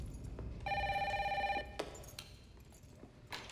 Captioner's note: phone ringing